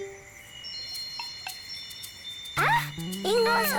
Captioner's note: chimes tinkling; cheerful music; speaks in foreign language